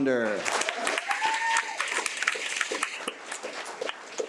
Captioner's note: attendees cheer